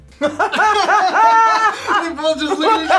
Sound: both laugh

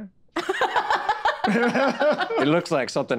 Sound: group laughing

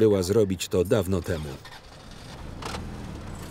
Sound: starts car

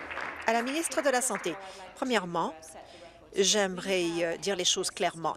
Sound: applause

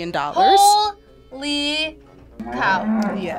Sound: cow moos

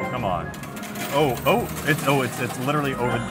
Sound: coins clinking

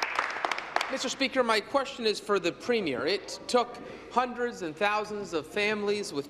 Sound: applause

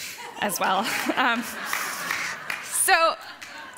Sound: applauding

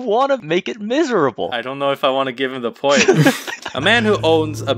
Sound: laughs

